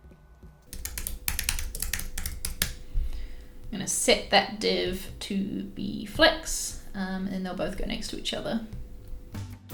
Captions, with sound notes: (typing) I'm gonna set that div to be flex, and they'll both go next to each other.